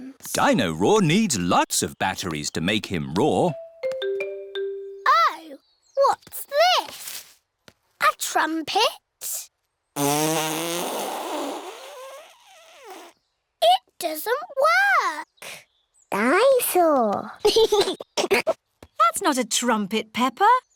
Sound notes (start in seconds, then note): 9.9 blows raspberry; 17.4 giggles